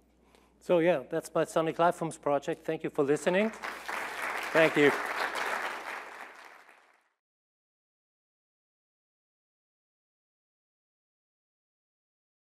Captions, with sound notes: So, yeah, that's my Sonic Lifeforms project. Thank you for listening. Thank you. [APPLAUSE]